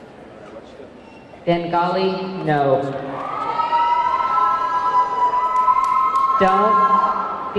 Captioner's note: audience clamoring